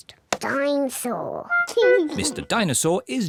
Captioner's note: giggles